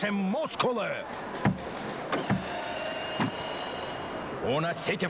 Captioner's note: stomp